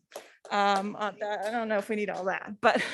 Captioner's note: board members clapping